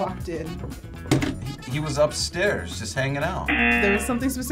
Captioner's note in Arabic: يرن الجرس